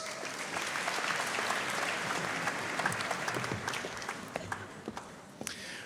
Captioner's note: audience cheering and applauding